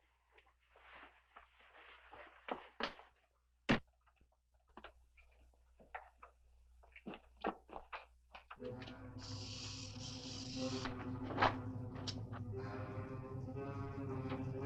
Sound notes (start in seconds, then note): 8.6 tense music; 8.8 snake rattling